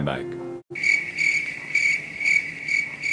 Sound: crickets

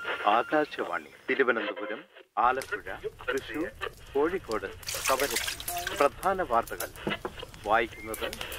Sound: news on the radio

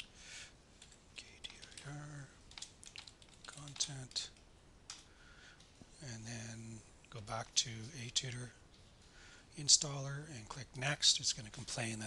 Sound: typing

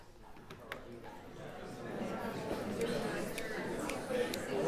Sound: chatter

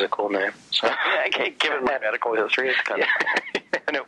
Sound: laughs

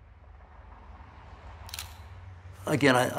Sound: camera snapping photo

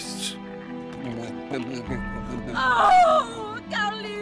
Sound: gurgles

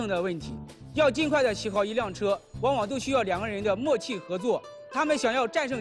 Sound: speaking professionally

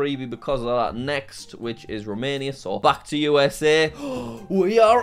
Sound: gasps

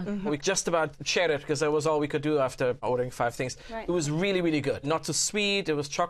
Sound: none

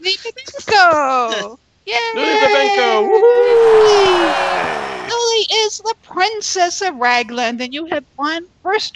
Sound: cheers and Applause

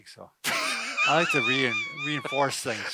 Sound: laughs

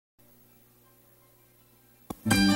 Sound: analog tape static

